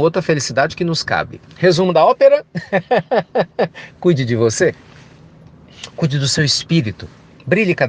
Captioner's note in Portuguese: risos